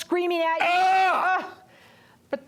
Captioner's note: screams